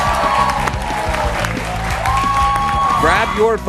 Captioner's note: cheers and applause